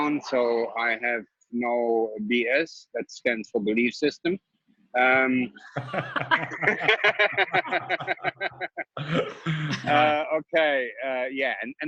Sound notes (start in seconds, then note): 5.6 laughing